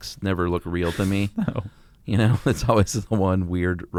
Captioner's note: both laugh